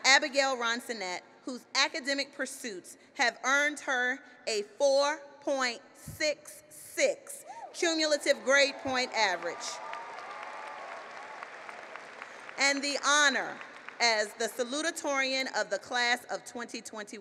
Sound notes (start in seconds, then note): 8.4 applause